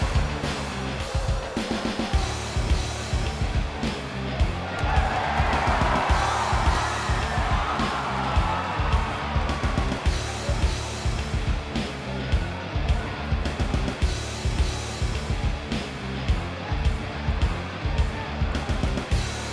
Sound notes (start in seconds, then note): 0.1 crowd chattering; 4.2 crowd cheering